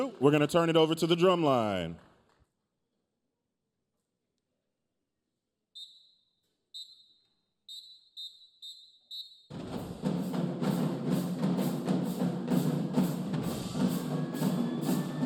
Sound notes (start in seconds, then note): 7.6 whistle blowing; 9.5 upbeat drumming music